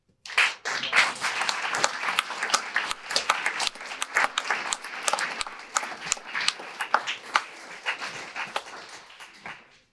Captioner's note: audience applause